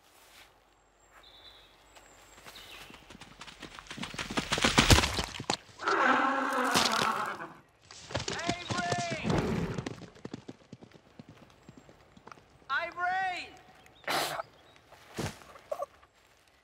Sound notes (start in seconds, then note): 2.4 hoofbeats; 5.8 Unicorn whinnies; 9.7 hoofbeats retreating; 14.7 grunting